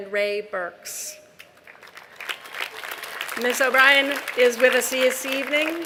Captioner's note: applause